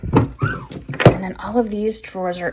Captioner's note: drawer thudding